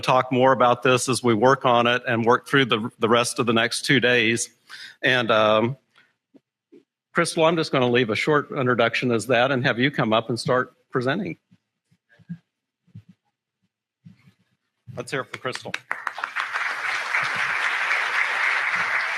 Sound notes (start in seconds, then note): 15.2 applause